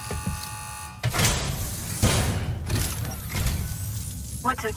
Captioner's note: machine buzzing; metal clangs